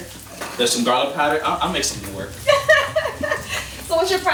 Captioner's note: laughing